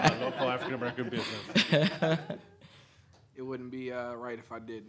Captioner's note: audience laughing